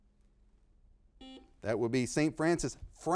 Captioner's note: buzzer beeping